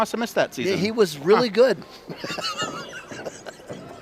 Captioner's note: laughs